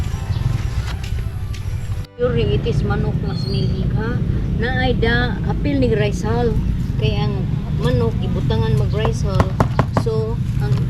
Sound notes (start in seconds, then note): none